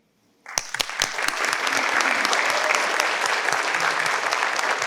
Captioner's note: participants clap